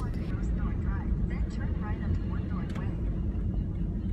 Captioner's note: GPS talking